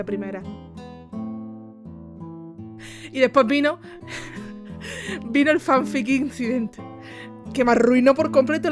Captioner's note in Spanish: risas